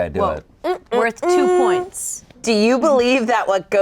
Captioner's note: hums